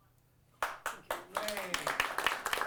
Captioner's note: applause and cheering